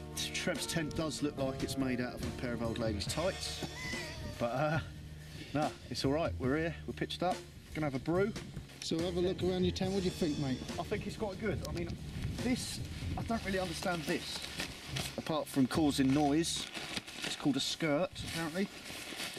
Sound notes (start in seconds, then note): 3.5 laughs